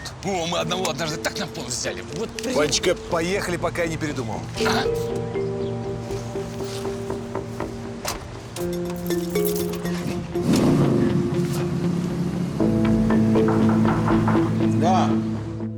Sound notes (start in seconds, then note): 10.3 car engine sounds